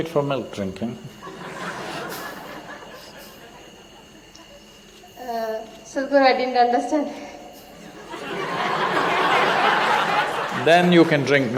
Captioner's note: laughter